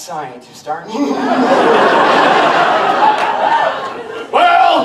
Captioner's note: audience laughter; Doc cackles